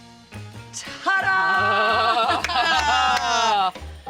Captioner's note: clapping